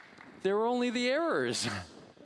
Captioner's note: applause